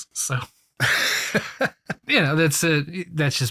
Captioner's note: laughs